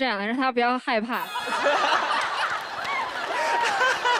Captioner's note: burst out laughing